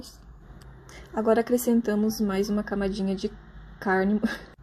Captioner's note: laughs